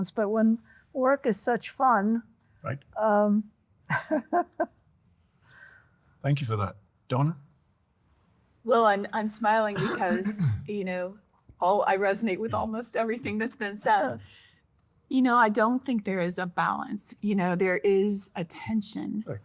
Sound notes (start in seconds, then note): 3.9 laughing